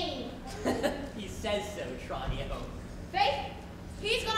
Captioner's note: chuckles